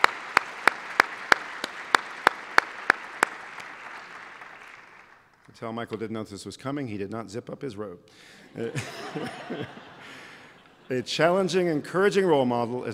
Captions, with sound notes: You can tell Michael did not know this was coming. He did not zip up his robe. [LAUGHTER] A challenging, encouraging role model